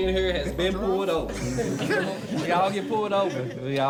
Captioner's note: laughter